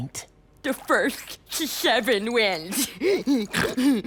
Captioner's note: snorts